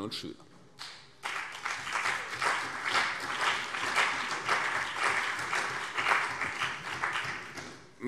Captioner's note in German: Beifall CDU und BÜNDNIS 90/DIE GRÜNEN